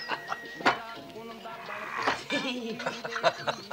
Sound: Charlie laughs; Sandra laughs

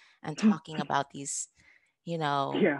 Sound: woman laughing

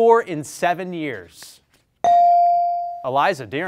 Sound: bell rings

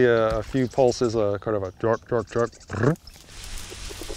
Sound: imitates frog croaking

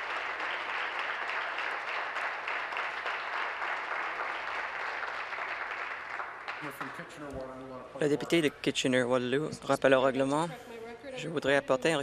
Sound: applause

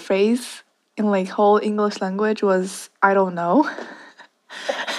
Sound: both laughs

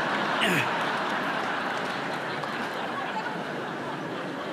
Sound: laughter

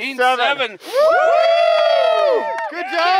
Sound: cheering

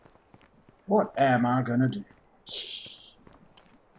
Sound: laughs softly

